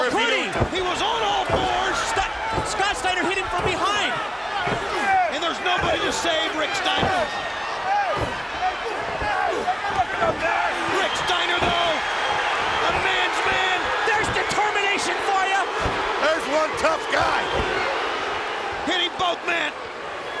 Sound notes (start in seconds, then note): 7.8 fists thudding